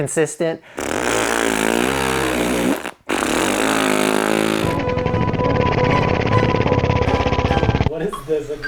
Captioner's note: blows raspberry